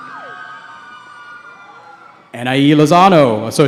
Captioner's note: cheering